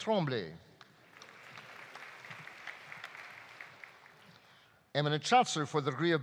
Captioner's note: audience applauding